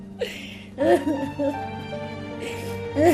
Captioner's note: Pacita sobbing